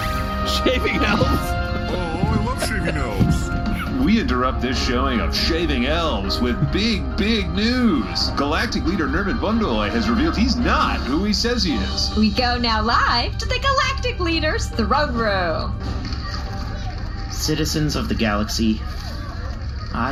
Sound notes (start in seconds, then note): 0.6 laughing